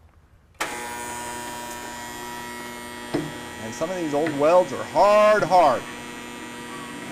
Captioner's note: buzzing